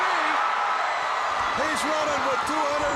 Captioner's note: crowd cheering